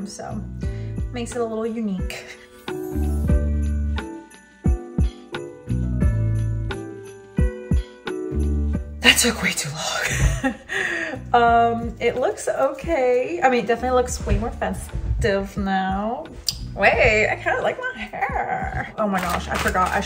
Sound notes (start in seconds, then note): 3.1 peaceful music; 11.2 laughs